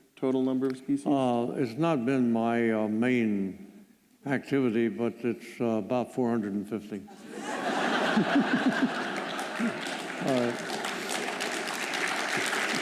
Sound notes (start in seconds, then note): 7.1 laughter; 8.4 applause